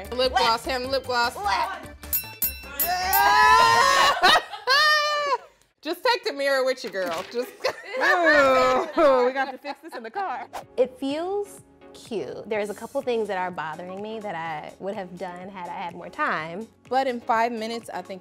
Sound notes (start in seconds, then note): 2.0 bell dings; 2.6 all cheering